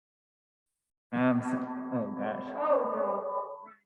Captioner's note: echoing